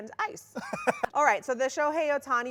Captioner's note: laughs